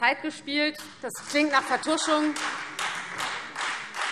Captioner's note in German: Beifall Freie Demokraten und vereinzelt SPD